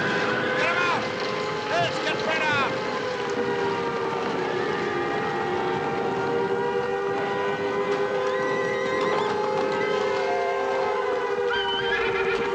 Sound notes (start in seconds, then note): 2.8 sirens Continue; 8.0 whinnying